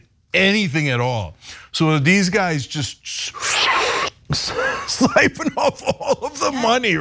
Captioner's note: laugh